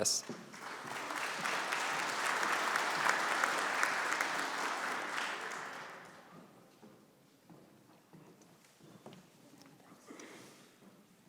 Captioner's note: applause